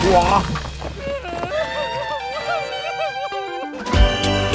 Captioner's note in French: sanglots